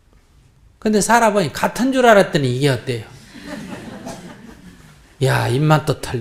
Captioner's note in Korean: 청중 웃음